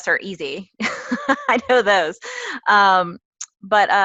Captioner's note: laugh